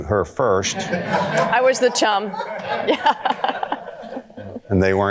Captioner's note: audience laughter